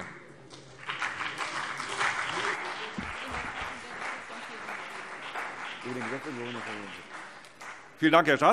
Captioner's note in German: Beifall CDU und BÜNDNIS 90/DIE GRÜNEN